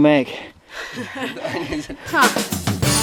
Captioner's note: laughter